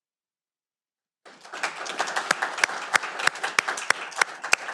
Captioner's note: audience applauding